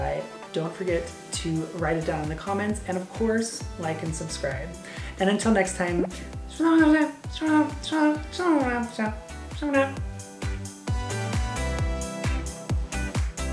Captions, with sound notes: don't forget to write it down in the comments and of course, Like and Subscribe. And until next time, (imitating Animalese) (groovy pop music)